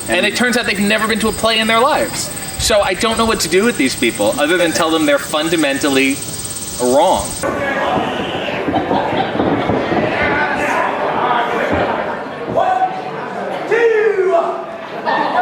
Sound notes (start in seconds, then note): 7.4 crowd shouting